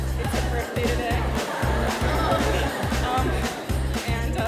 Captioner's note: crowd laughs